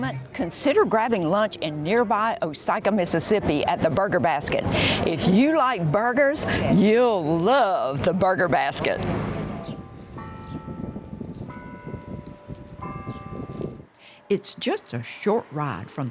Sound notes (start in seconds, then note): 9.8 birds chirping; 11.2 bell clanging